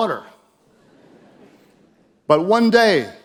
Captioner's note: audience chuckles